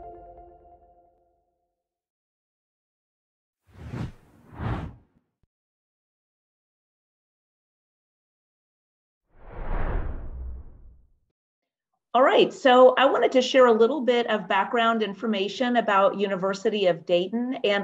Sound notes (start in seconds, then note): 3.7 swoosh